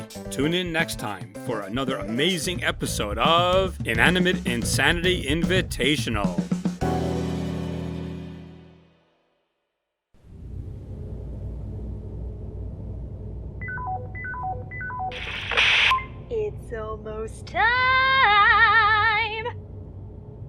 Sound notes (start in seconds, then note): 13.5 walkie-talkie turns on